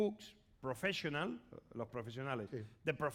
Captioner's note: speaking spanish